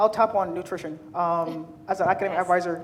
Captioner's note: chuckles